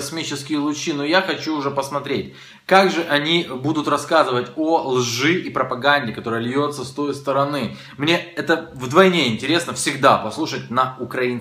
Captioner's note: Russian